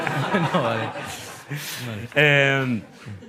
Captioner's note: laughter